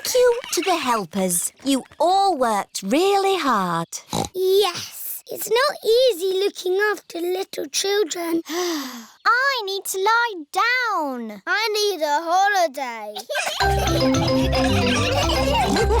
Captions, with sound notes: Thank you to the helpers. You all worked really hard. Yes. It's not easy looking after little children. (SIGHS) I need to lie down. I need a holiday. (ALL LAUGHING)